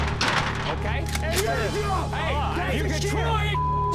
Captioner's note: speaking foreign language